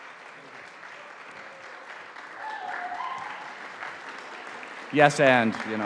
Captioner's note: audience applauding